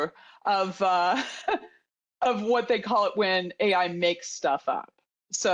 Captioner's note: chuckles